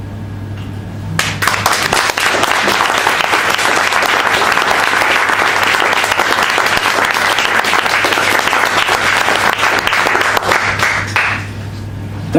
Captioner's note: applause